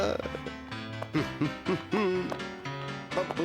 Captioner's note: humming